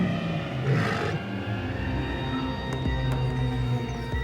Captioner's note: snarls; suspenseful music